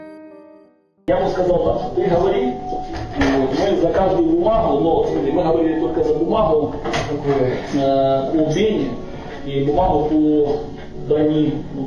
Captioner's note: speaks on the phone